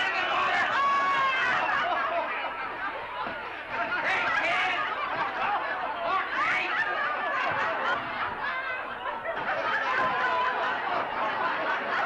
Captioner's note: crowd laughs & banters